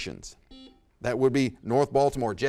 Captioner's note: buzzer dings